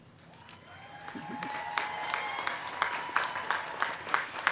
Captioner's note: crowd cheering